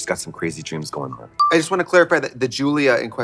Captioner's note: pause chime